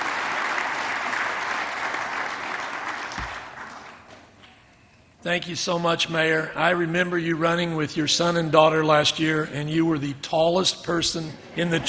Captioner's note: applause